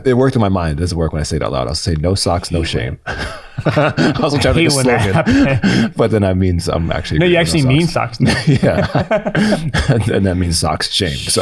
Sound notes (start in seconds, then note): 3.0 laughs